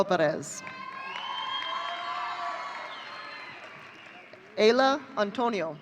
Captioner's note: audience cheering